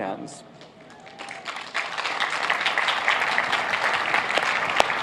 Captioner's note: applauding